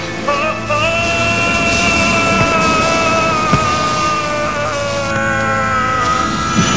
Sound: Magneto cries out in misery

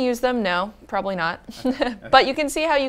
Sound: laugh

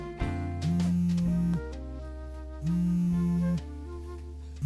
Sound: phone buzzes

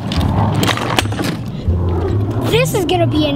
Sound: wheels rolling

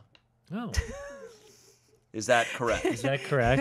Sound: laughing

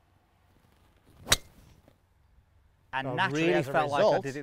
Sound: club hitting ball

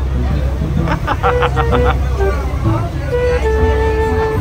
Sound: laugh; background music

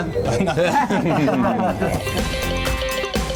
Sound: laughing

